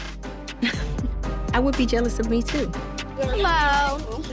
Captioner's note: chuckles